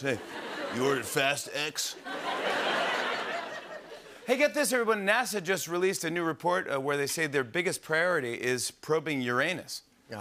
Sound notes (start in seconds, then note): 1.8 laughter